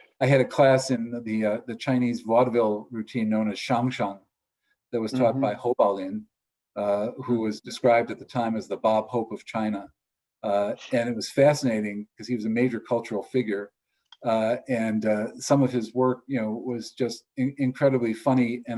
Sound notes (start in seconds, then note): 3.7 speaks foreign